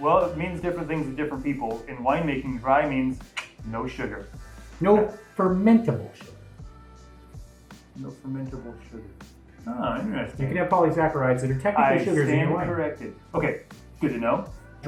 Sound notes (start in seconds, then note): none